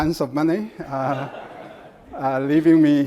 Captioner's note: audience laughs